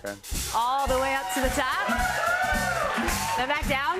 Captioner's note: cheers and applause